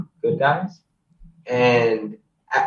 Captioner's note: laughs